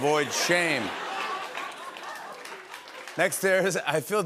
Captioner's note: laughter